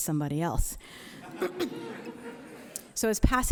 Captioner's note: audience laughing